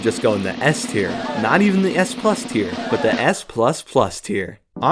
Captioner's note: audience gasps